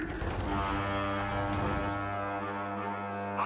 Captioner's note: horn wailing